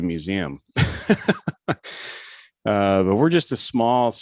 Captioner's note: laughs